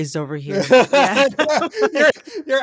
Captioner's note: laughter